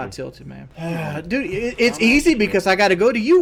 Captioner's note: sighs